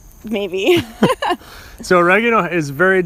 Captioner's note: laughs